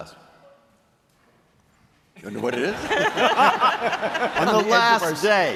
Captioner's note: laughter